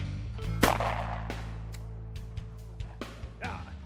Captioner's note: booming